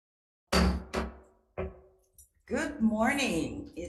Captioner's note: gavel bangs